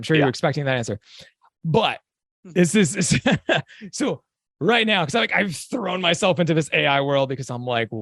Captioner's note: chuckle